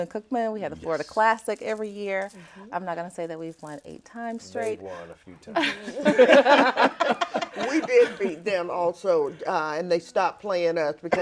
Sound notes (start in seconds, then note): 5.4 all laughing